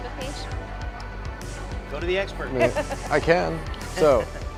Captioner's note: laughs